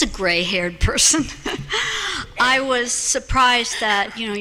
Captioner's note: laughter